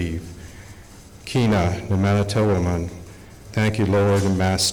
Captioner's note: speaking Algonquian